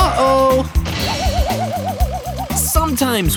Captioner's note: screeching; crashing